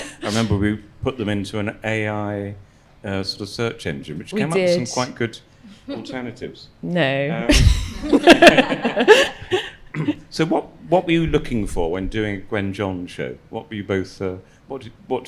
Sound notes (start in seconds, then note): 8.0 audience laughs